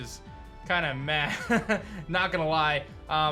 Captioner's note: chuckles